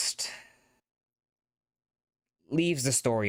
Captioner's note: brief pause